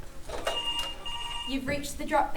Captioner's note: ring